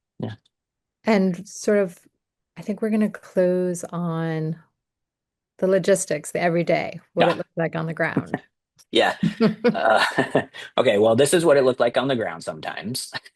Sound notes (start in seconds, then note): 9.0 laughter